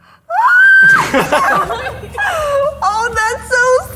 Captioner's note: shrieking